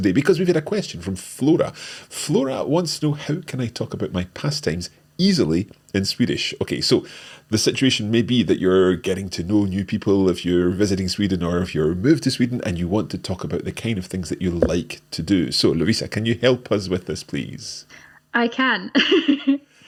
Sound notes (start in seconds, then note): 18.4 laughs